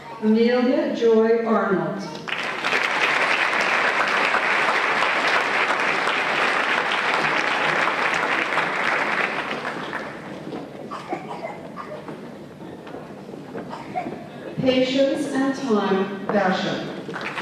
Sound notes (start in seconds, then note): 2.1 applause